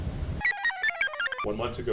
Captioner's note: computer chirps